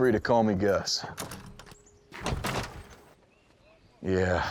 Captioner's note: rattling locked door